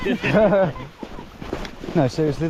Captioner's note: laughter